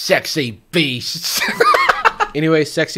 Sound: host laughing

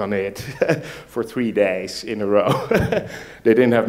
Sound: laughs; laughs

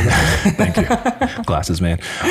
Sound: chuckles

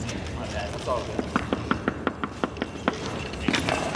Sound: taping ground

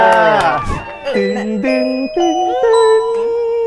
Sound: mimicking mall announcement

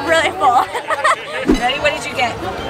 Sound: laughing

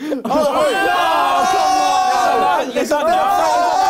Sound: crowd cheers

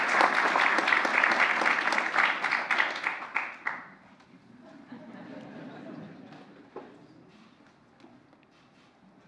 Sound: laughter

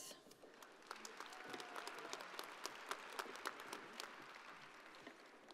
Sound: audience applauding

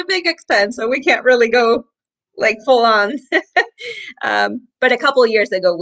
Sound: chuckles

